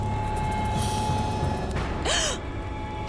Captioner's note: gasping